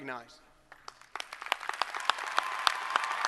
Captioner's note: applause